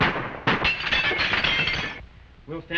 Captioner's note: glass breaking